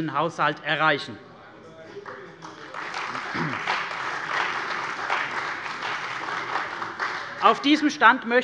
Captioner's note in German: Beifall bei der CDU und dem BÜNDNIS 90/DIE GRÜNEN